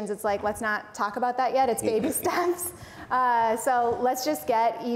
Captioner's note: laughs